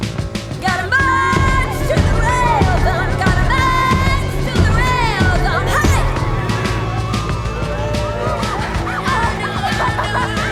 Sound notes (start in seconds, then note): 6.4 crowd cheering; 8.8 Anna laughs